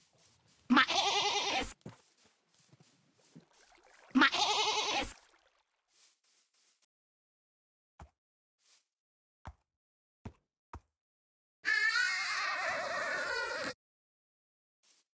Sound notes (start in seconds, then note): 0.7 sheep mating call; 4.1 sheep mating call; 11.7 horse moans